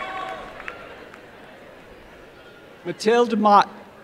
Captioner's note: applause and cheering